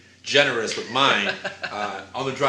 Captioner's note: laughs